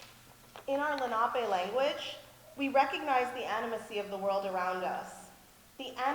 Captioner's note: speaks in English